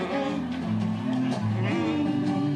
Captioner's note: humming